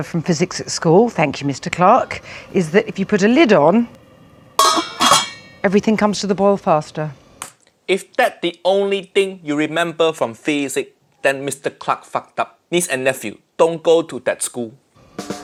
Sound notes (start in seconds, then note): 4.6 metal clinking